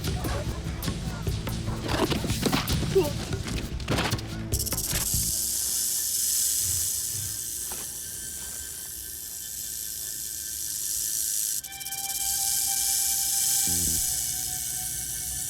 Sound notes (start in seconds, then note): 4.7 snake rattles; 11.6 tense music